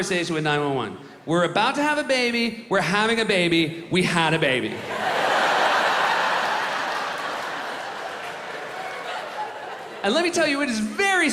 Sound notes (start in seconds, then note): 4.8 laughter